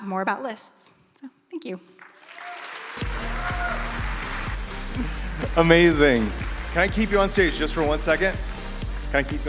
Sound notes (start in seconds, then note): 1.9 audience applauds